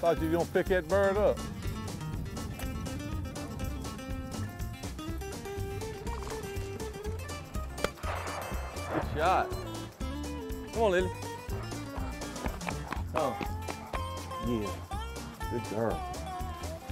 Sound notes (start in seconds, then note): 2.3 upbeat country music; 7.8 shot goes off